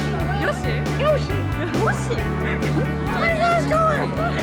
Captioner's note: laughing